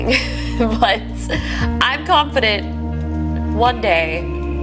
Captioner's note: giggling